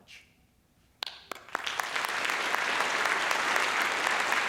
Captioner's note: applause